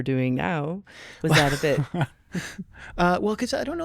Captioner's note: chuckling